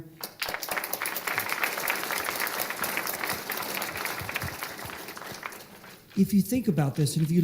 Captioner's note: applause